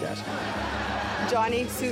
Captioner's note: laughter